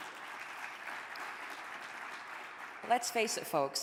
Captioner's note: audience applauding